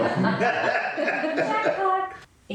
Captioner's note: all laughing